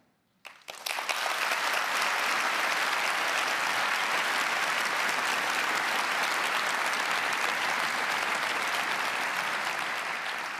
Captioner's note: applause